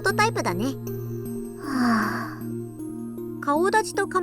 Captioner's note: sigh